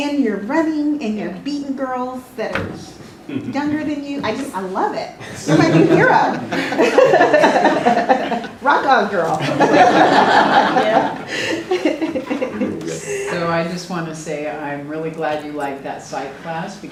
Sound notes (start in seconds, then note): 5.2 laugh